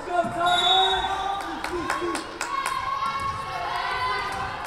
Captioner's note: whistle blowing